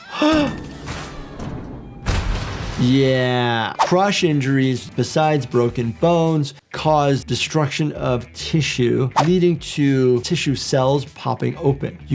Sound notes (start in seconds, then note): 0.0 gasping; 0.1 Lily Lovebraids screaming; 2.0 objects thudding